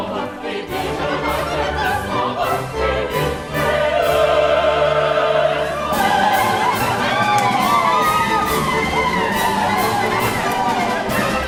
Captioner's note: cries, howls